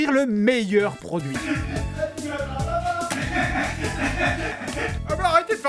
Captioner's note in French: Rires